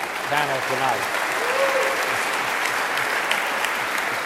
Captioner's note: audience applauding